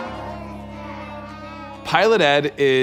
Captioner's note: children chatting